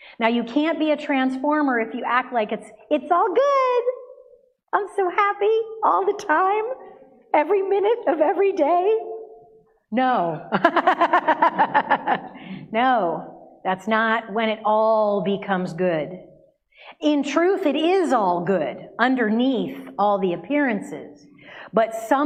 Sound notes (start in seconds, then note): 10.6 laughs